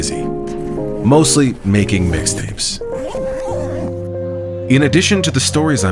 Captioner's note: bag zipping